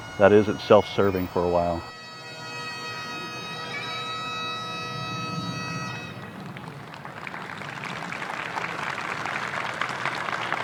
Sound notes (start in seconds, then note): 2.2 somber bagpipe music; 6.1 audience clapping